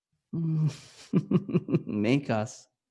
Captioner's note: chuckles